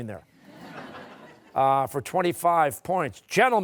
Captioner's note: laughter